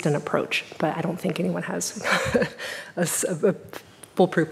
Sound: laughing

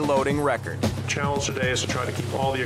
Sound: male Voice

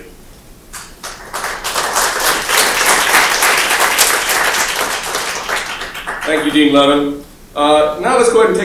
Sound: applause

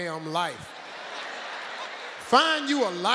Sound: audience laughing

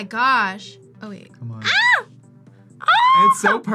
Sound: screams

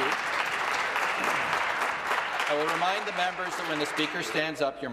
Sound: applause

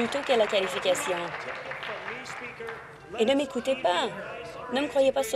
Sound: applause

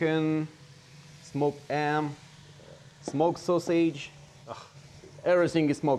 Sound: exhales

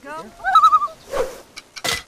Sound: loon call

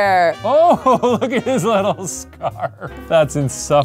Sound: laughs

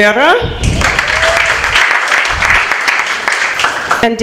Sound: applause

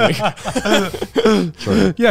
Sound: all laughing

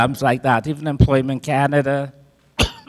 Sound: coughs

